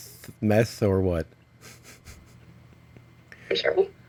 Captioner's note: laughs